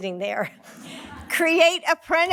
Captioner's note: laughing